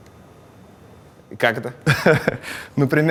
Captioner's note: laughs